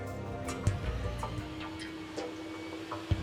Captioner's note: saw whirring